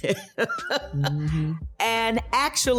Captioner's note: laughing